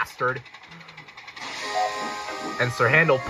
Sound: toot!

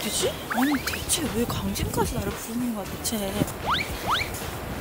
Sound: speaking to herself

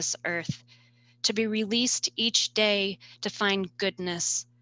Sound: none

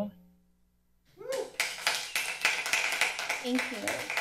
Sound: people applauding

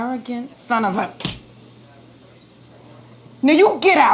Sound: skin smacking

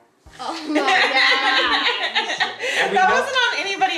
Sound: mum laughing

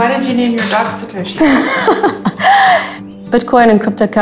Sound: laughing

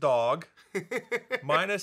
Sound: Dan laughing

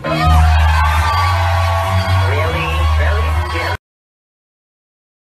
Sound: applause

